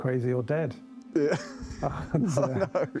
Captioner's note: laughing